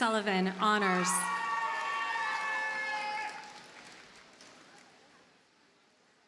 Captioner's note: audience cheers and applauds